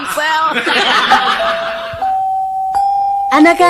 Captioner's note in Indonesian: tertawa